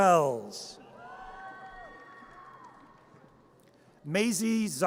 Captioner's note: audience cheers